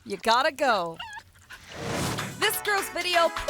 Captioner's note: dog whimpers and pants